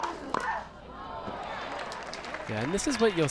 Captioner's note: crowd groans